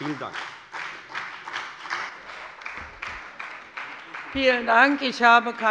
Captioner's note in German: Beifall bei der FDP und bei Abgeordneten der SPD